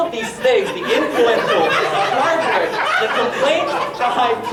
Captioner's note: audience laughing